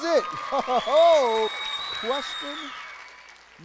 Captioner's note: audience cheering and clapping